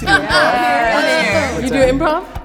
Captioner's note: all laughing